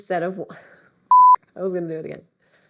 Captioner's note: beep